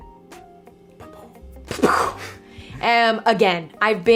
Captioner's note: mimics explosion sound with mouth